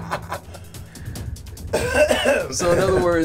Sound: clears throat

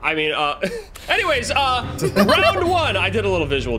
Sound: hosts laughing; laughs

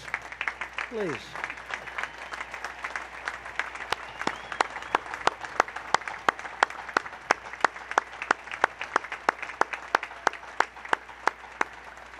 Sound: applause

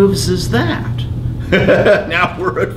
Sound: laughs

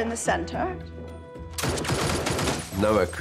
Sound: gunfire

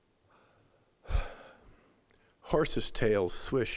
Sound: sighing

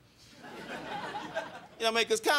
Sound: crowd laughing

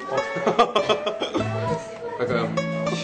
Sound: laughs

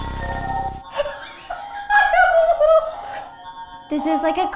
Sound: laughs

